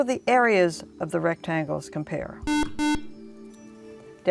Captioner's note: buzzer